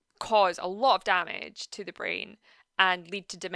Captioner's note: none